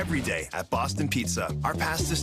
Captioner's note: glitching audio